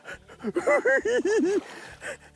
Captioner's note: giggles